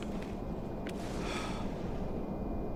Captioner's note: sigh